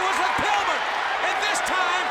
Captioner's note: audience cheers